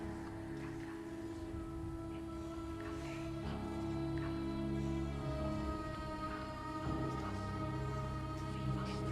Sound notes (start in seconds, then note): 0.0 soft dramatic music; 4.1 whispering continues